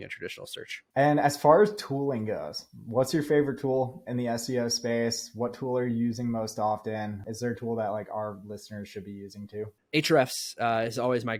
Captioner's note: speaking